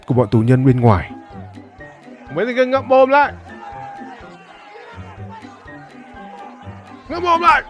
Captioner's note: clap